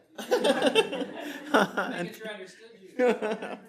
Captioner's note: audience laughing